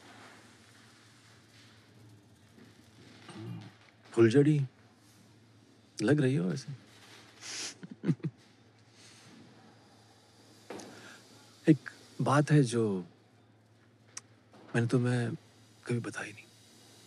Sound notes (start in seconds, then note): 7.5 Both chuckle